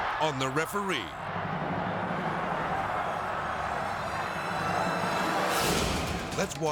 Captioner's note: crowd yelling; edgy dramatic music